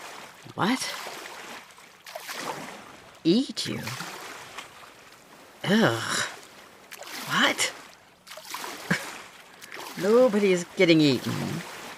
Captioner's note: swimming stops